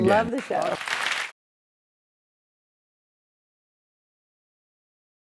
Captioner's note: audience clapping